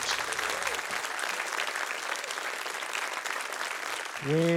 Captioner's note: applause